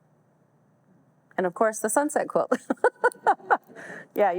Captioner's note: laughs